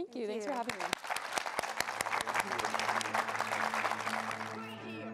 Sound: audience applause

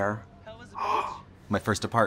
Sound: gasp

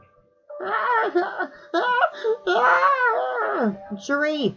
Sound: crying

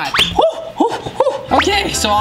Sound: gasping

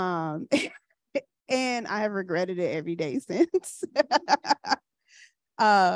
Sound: laughs

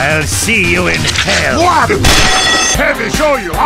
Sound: flesh noises; gunshot, bell alarm sound

